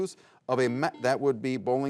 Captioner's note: buzzer buzzes